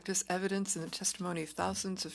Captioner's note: speaking French